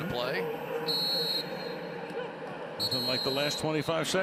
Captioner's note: whistling